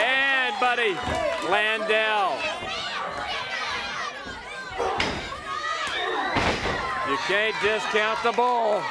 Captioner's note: crowd chatter